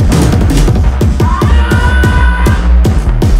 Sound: he yells

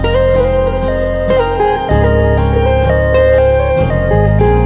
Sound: ambulance siren wails

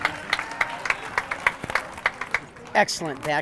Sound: audience clapping

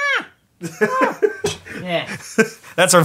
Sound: laughs

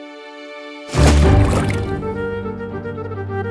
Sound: water splash sound

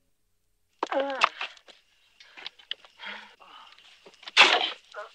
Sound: Skeeter grunting

